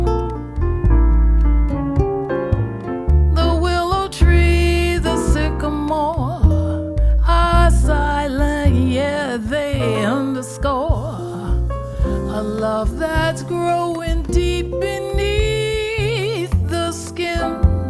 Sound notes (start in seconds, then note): 0.0 gentle music; 8.1 vocalizes